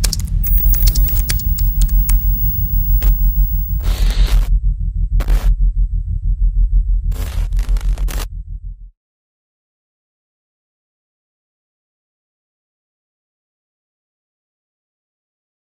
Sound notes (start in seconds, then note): 0.4 screen static scratches; 0.5 keyboard keys clacking; 3.8 intermittent screen static scratches